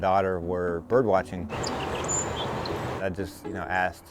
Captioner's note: birds chirping